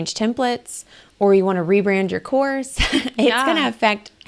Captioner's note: laughs